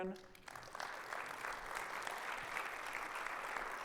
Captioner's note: audience applauds